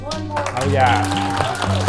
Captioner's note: applause